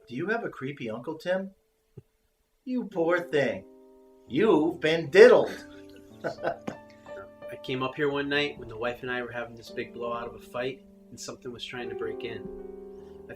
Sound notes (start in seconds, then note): 5.5 laughing